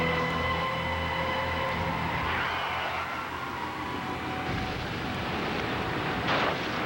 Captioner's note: tires screech